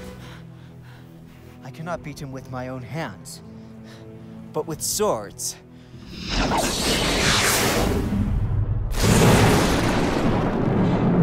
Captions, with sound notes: I cannot beat him with my own hands... ...but with swords. (Whoosh) (BANG)